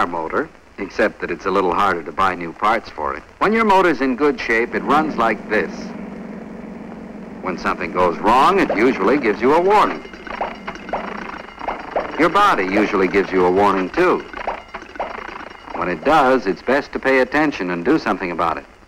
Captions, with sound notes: except that it's a little harder to buy new parts for it. When your motor is in good shape, it runs like this. [humming sound] When something goes wrong, it usually gives you a warning. [clanking sound] Your body usually gives you a warning too. When it does, it's best to pay attention and do something about it.